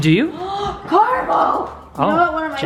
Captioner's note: gasps